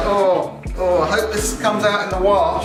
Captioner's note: groans